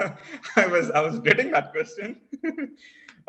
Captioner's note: laugh